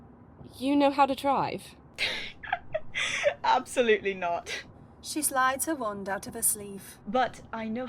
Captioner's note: Alice laughs